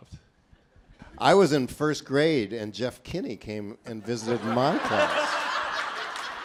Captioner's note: laughing